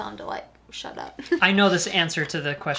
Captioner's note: chuckles